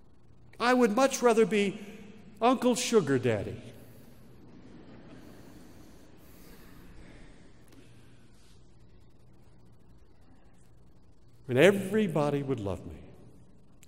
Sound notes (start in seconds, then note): 4.5 laugh